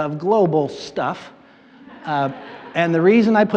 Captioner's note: audience laughs